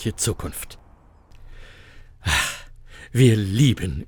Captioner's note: sigh